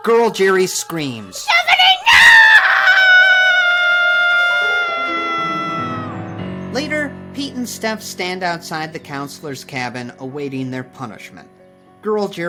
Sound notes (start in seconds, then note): 1.4 Girl Jeri screaming